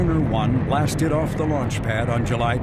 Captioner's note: rocket engine roaring